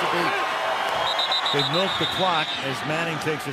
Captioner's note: whistle